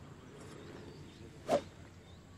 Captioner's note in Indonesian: swoosh